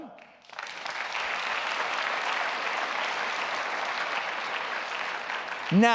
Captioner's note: applause